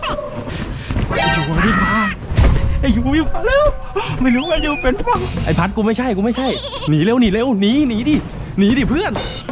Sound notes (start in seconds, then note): 1.5 pat